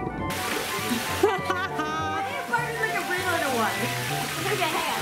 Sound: laughs

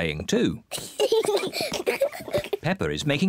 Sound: both giggling

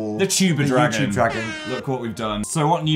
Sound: air horn

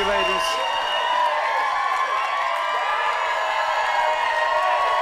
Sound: cheering and whooping

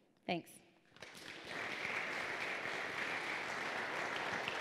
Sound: applause

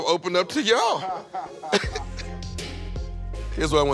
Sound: laughter

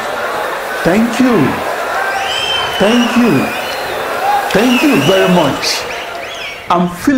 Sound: wild applause and cheering for 22 seconds

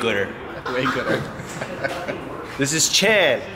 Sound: laughs

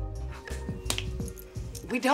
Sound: hand slap

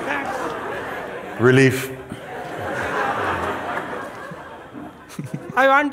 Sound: laughter

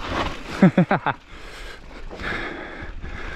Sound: laughs

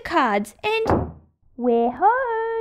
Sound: front door shuts

